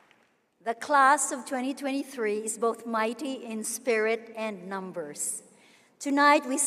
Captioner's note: applause